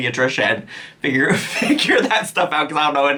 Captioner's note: chuckles